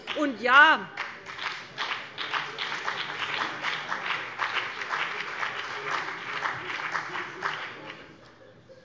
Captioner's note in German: Beifall BÜNDNIS 90/DIE GRÜNEN